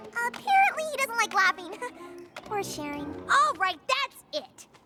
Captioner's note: chuckles